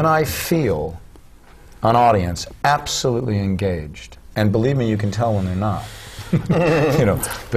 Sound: laugh

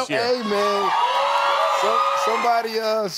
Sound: cheers

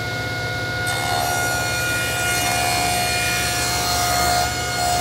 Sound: machine humming

